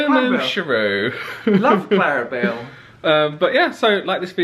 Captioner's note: laughs